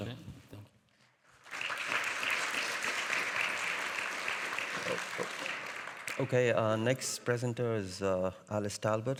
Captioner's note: audience applauding